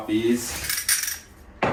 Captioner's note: scraping